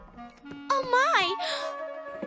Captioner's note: gasps